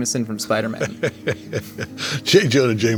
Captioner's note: J.K. laughing